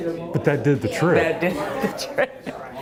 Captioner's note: chuckles